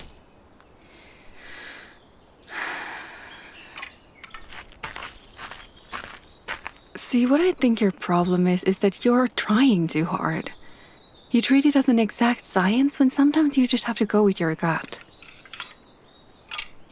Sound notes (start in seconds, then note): 2.5 sigh